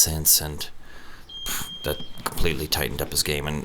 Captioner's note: beep